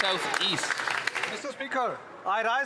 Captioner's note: some Applause